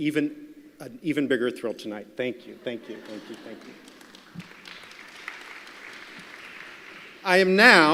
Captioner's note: applause